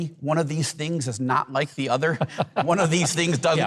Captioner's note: Mike laughs